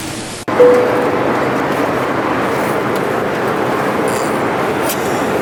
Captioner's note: airplane engine sounds